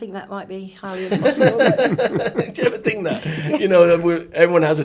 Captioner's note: all laugh